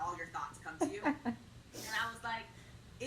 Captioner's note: laughs